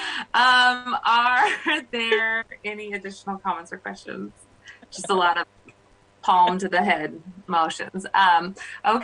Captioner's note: laughter